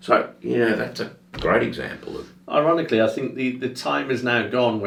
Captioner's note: none